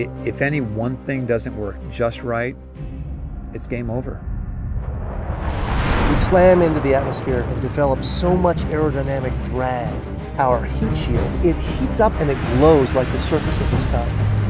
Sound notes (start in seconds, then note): 2.8 whoosh; 4.2 music -tension/drums steadily building